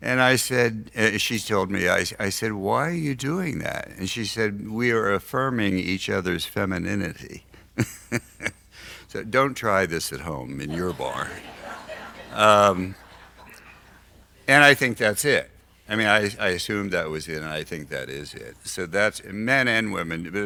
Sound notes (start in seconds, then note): 7.8 laughs; 10.6 audience laughs